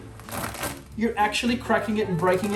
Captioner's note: pasta cracking